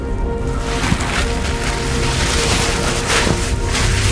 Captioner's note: suit rustles